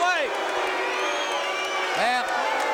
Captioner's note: crowd cheering